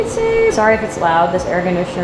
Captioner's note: machine humming